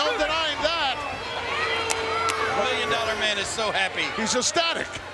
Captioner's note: applause